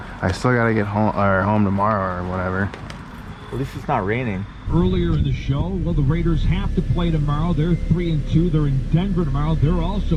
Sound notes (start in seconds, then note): 4.3 radio playing